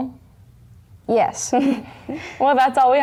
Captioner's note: more laughter